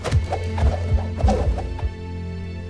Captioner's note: weapon swooshes; melodramatic music playing